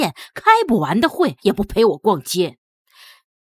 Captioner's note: 独り言